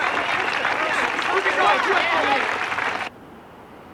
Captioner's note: chattering